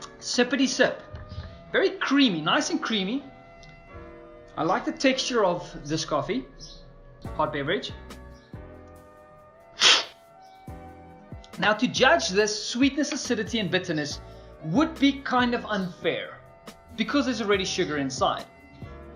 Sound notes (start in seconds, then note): 9.8 slurping